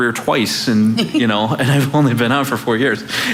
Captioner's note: laughing